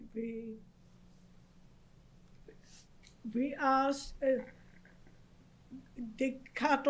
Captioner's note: pauses for 3 seconds